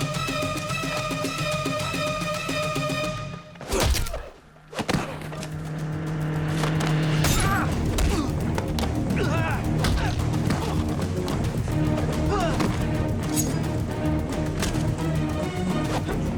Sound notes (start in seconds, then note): 4.0 grunts; 7.4 grunting